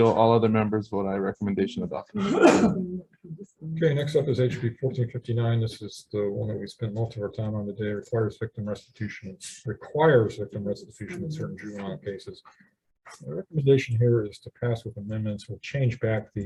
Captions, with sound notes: All other members vote aye, recommendation adopted. (male sneezes) - Okay, next up is HB 1459. This is the one that we spend most of our time on the day, requires victim restitution, requires victim restitution in certain juvenile cases. The recommendation here is to pass with amendments, or change back